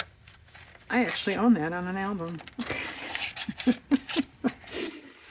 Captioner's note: laughs